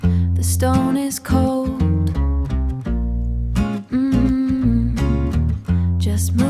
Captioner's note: mmm, mmm